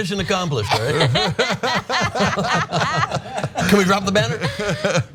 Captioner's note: laugh